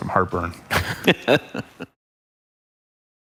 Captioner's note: laughing